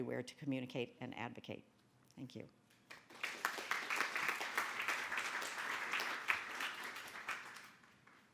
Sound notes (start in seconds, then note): 2.9 audience applauding